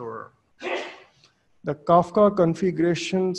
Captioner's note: audience member sneezes